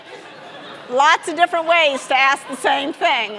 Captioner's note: audience laughing